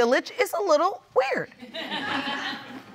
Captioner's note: audience laughs